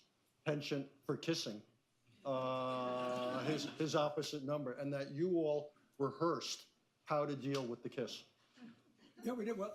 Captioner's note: laughter